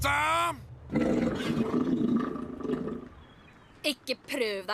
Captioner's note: stomach growls